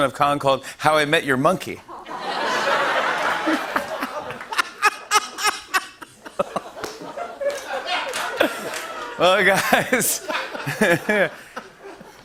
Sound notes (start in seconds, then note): 1.7 laughter; 4.2 laughing loudly; 7.0 laughter; 10.7 laughter